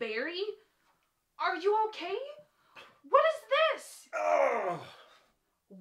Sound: groans

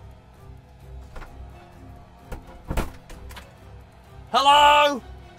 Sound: door clanging

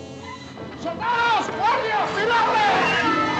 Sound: shouting in spanish

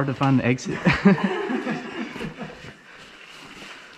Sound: everyone laughs

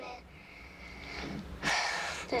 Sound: sighs

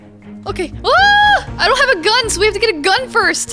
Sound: screams

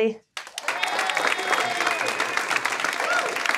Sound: attendees applauding

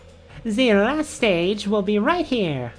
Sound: none

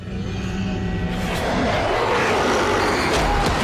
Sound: werewolf growls

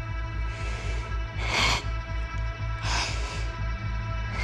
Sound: shuddered breathing

